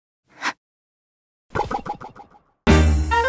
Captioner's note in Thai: ป๊อง